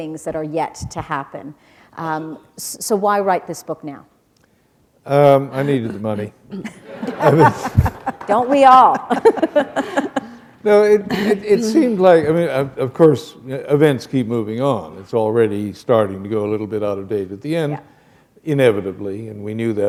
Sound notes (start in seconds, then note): 6.6 laughter